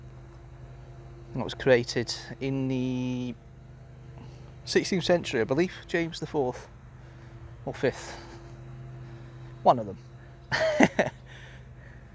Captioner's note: laughs